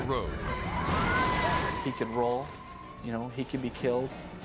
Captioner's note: car crashes